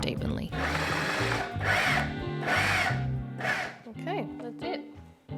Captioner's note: food processor buzzes